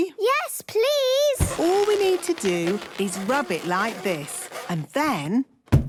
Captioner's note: balloon rubbing; balloon echoes